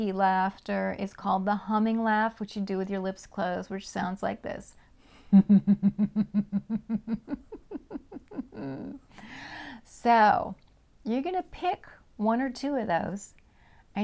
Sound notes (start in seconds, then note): 5.3 humming laughter